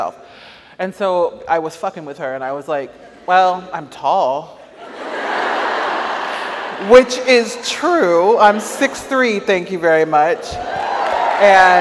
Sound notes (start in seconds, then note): 4.7 audience laughs; 10.6 audience applauds